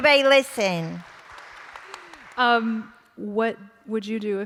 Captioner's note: applause